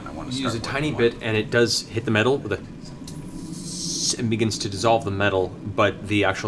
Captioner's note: sizzle